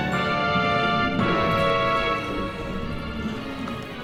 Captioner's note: beastly groaning